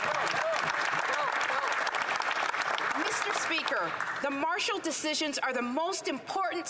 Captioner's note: applause